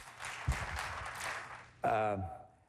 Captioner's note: applause